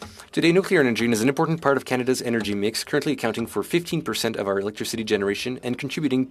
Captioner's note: speaking French